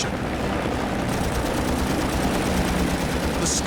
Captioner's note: guns firing